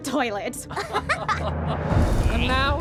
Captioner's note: laughing